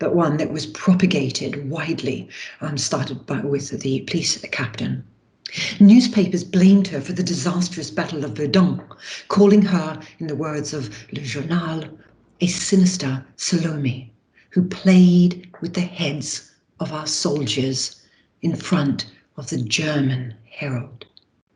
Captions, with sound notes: but one that was propagated widely started by voice of the police that the captain. Newspapers blamed her for the disastrous Battle of Verdun, calling her in the words of (speaking foreign language) "A sinister Salome who played with the heads of our soldiers in front of the German Herod."